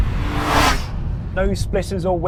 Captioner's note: engine revving